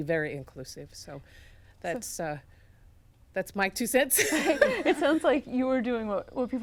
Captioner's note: laughs